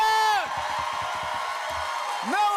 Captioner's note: cheers and applause